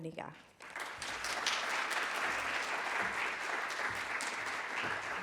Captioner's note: applause